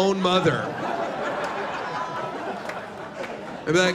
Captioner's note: laughter